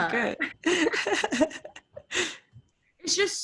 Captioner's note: laughs